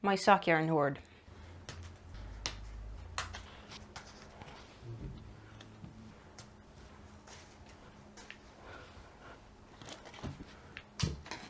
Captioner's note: sock yarn plonking on the table